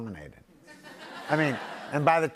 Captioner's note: laughter